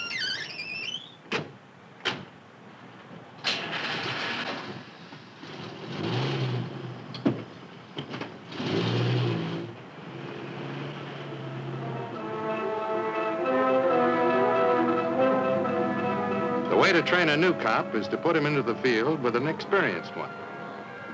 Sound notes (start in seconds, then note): 0.0 car doors squeaking; 3.4 engine cranking; 11.7 dramatic orchestral music